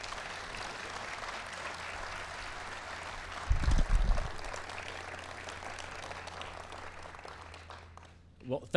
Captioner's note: applause